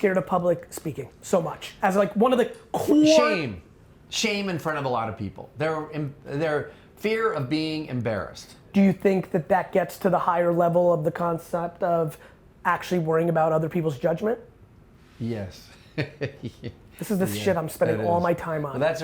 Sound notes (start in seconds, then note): 15.8 laughing